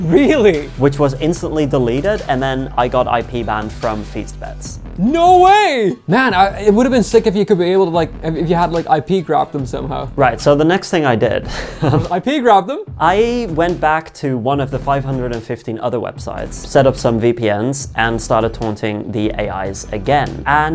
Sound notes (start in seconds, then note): 11.5 laughing